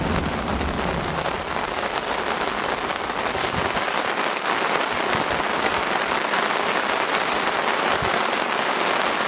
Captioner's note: torrential rains